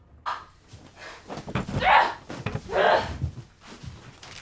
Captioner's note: grunts